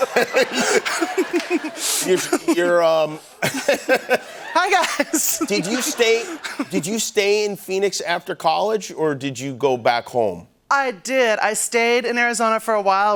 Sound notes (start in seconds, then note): 0.0 laughter and applause; 5.5 laughter